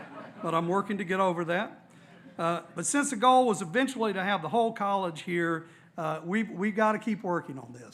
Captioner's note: laughter